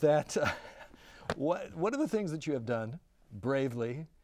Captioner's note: laughing